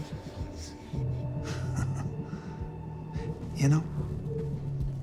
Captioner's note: suspenseful music; Bobby chuckles